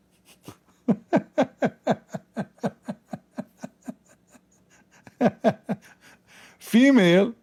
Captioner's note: Ketawa